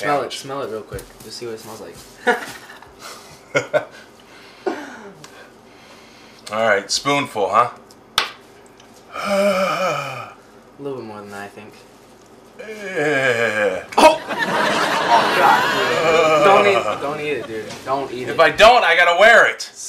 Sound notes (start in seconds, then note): 3.4 laughs; 9.1 groans; 14.0 audience laughs